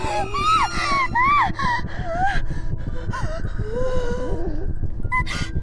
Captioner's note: Kira screams softly